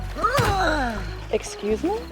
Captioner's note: groaning